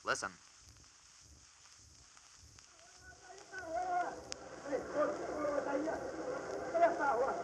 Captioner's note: sounds of Hong Kong streets and harbor